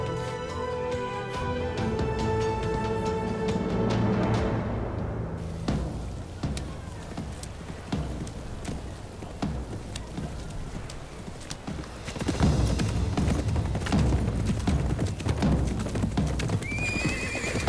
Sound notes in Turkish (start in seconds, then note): 5.5 Ayak sesleri; 12.1 At nalı sesleri; 16.6 At kişneme sesi